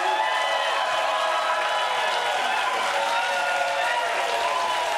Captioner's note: cheering